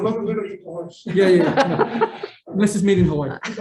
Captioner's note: meeting members laughing